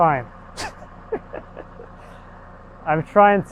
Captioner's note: chuckling